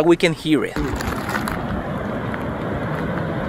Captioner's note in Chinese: 火山口里岩浆的声音